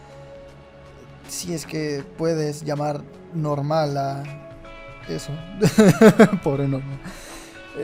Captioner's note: laughs